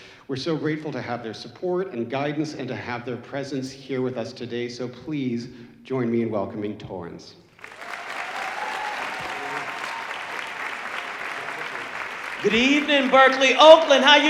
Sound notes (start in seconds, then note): 7.5 audience applauding